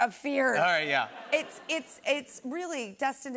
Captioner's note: laughter